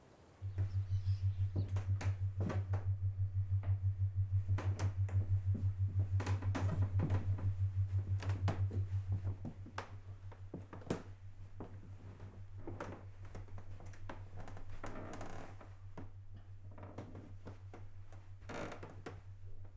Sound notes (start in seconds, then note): 0.2 ceiling fan humming; 10.2 floorboards creaking